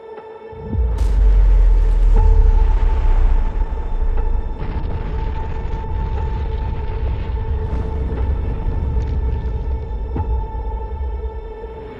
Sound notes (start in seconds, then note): 4.4 planet rumbling